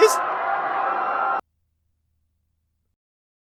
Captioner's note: the screaming crowd stops